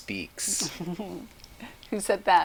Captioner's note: chuckles